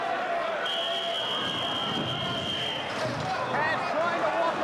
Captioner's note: whistling